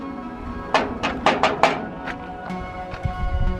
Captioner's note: metal clanging